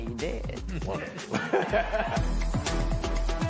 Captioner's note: laughter